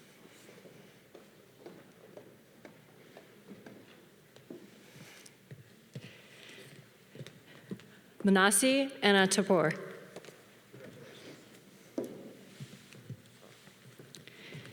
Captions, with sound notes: (footsteps tapping) Manasi Anna Tapol.